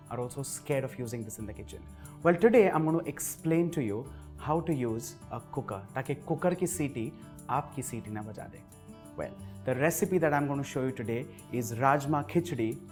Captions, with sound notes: ...are also scared of using this in the kitchen. Well today, I'm going to going to explain to you, How to use a cooker? (Speaking Hindi) Taki cooker ki siti aapki siti na baja de! Well, the recipe that I'm going to show you today is Rajma Khichdi,